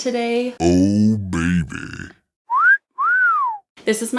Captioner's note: whistles